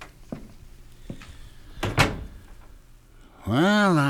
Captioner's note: door opens; door closes; footsteps depart